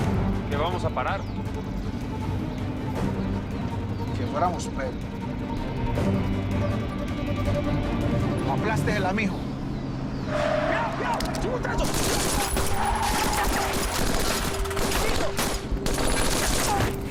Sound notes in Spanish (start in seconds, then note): 9.8 Chirrido de llantas; 10.4 Gritos; 11.7 Disparos